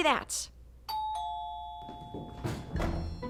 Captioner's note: doorbell dings; whimsical music